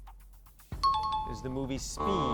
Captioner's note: times up ring; buzzer sound